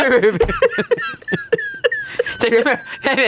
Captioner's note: laugh